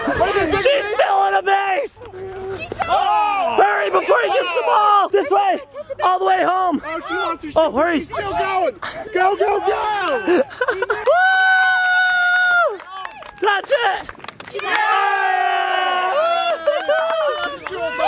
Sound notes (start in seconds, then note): 14.4 all cheering